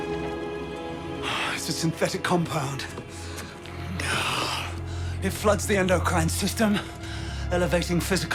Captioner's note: sighs